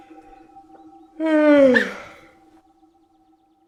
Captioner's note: yawns